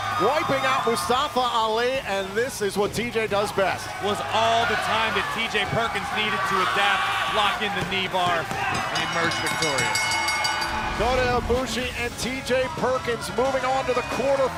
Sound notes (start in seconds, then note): 8.8 bell ringing